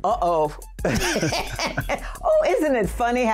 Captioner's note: laughter